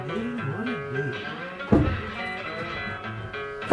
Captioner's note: door opens; door shut